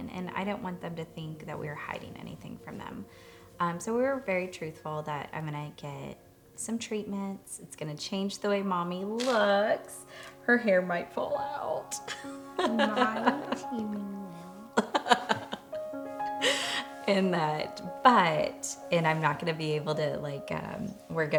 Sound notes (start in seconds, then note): 12.0 laughs